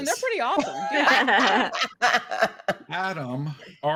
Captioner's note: actors laughing